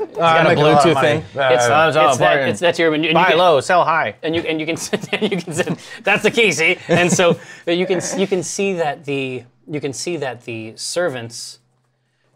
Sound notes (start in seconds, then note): 4.4 laughs